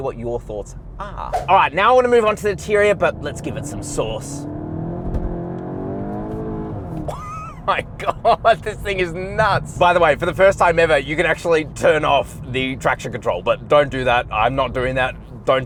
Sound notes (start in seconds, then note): 4.9 car engine accelerating; 7.1 laughing